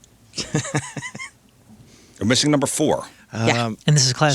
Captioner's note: laughing